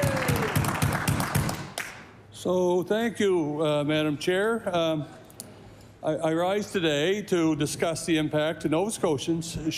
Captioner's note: applause